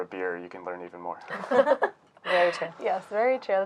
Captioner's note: laughing